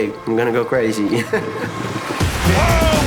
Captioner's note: laughs